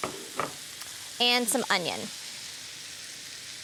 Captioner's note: sizzling